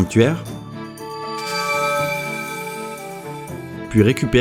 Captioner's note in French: bruit d'éclatement de la barrière + musique de Skyward Sword en fond